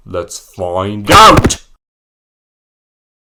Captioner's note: slams phone